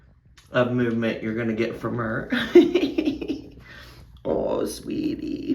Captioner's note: laughs